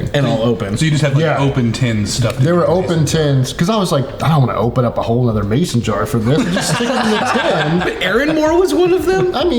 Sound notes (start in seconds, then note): 6.3 everyone laughing